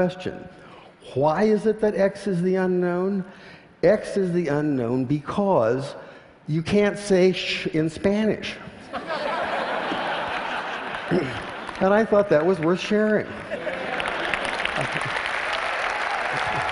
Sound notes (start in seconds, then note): 8.8 laughter; 13.3 applause